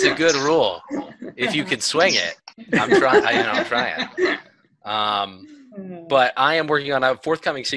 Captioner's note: laughter